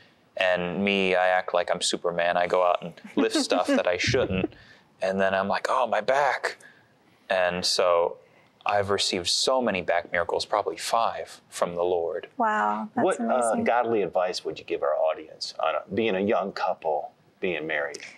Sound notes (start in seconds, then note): 2.9 giggling